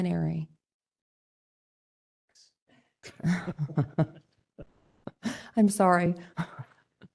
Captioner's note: laughter